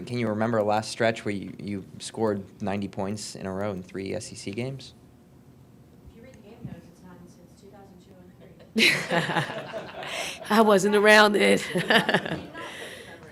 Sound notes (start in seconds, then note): 11.5 laughing